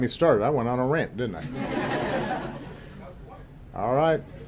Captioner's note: laughter